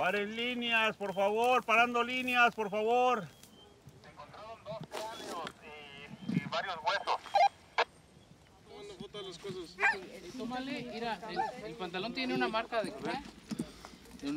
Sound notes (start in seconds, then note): 0.2 man speaks Spanish; 4.1 man on radio responds in Spanish; 10.7 group mutters in Spanish